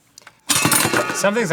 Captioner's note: fumbled clanking